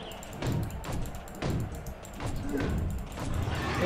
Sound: rapid clicking

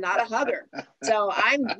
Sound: laughs

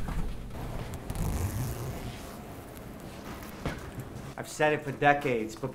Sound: zippers ratcheting down

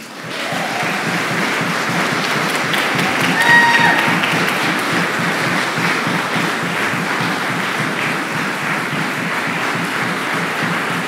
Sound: applause

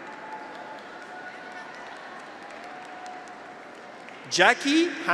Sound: audience applauds; graduates cheer

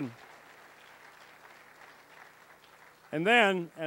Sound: applause

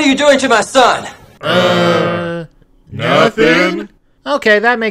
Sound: the town in unison

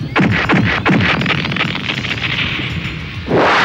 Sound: explodes

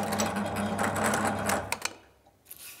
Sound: machine noise stops

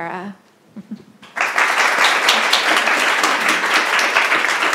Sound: applause

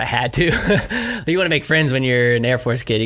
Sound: laughs

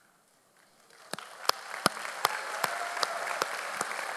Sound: audience applauding

